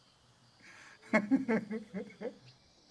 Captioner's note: laughs